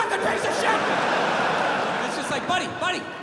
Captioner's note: crowd laughs